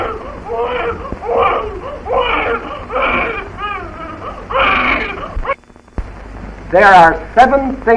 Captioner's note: baby crying